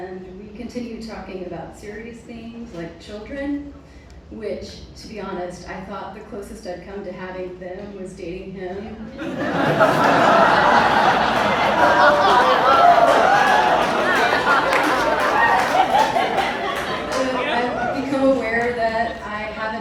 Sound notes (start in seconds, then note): 11.6 audience reacts